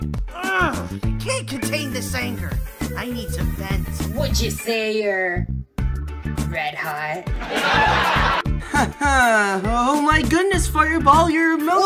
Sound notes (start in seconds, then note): 7.4 laughter